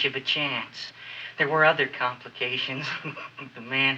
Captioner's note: chuckles